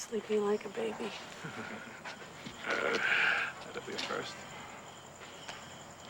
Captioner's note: chuckles